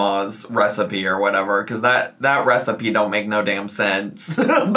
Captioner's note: laughs